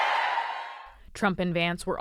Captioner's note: cheering